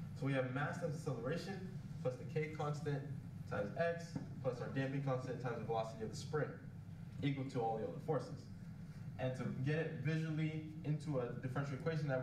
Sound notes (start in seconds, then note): none